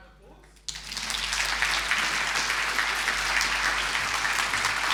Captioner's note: audience applauding